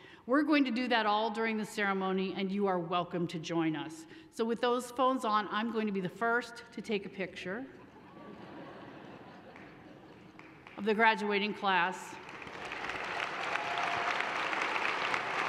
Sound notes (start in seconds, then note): 7.8 audience laughs; 12.2 audience applauds